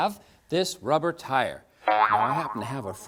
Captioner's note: boing!